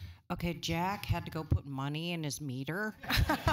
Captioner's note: laughter